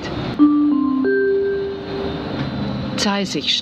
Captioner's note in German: Gong